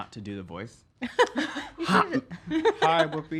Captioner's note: laughs